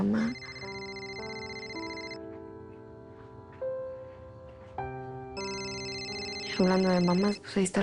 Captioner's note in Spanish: Suena el celular